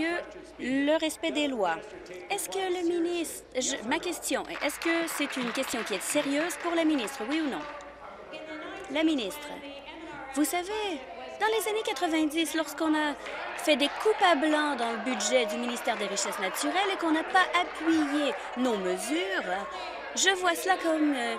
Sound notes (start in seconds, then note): 8.1 applause